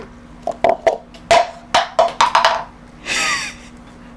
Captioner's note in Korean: 컵 추락